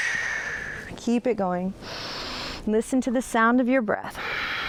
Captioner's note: breathes deeply